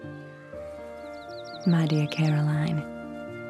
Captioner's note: birds chirping